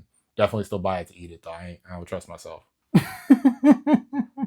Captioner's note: laughs